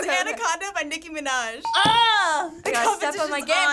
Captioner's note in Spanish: ding